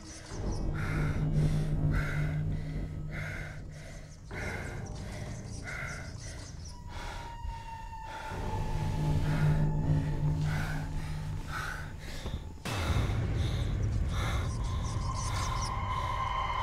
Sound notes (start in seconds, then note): 3.6 strange scratching sounds